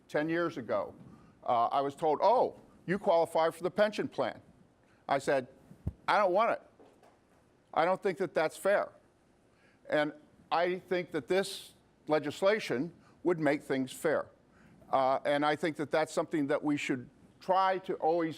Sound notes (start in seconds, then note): none